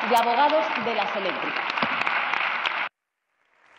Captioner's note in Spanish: rumores.-Varias señoras y señores diputados: ¡Muy bien!-Aplausos; Aplausos